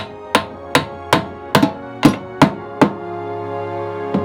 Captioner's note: hammering